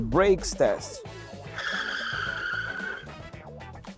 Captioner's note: braking Noise